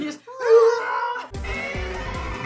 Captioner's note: both roar; t-rex roar